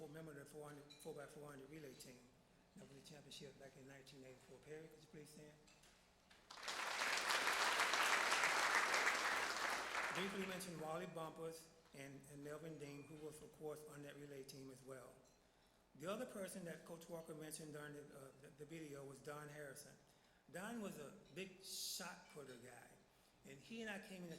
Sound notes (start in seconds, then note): 6.4 applause